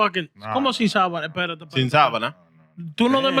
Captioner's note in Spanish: Hablando en idioma extranjero